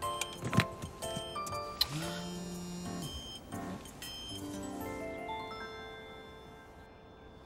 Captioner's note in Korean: 휴대전화 진동음